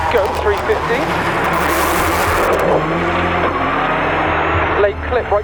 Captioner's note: engine roaring